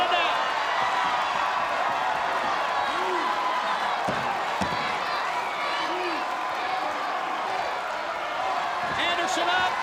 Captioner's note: applause